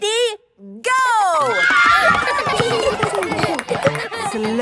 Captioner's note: kids screaming; laughter